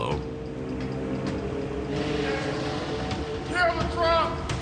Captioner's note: vacuum